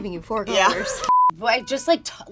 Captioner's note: laughing